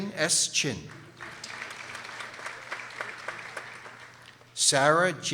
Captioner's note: people applauding